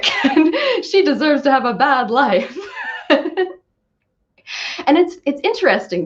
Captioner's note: laughs